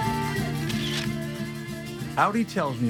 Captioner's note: camera flashing